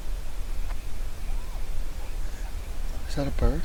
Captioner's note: animal vocalizing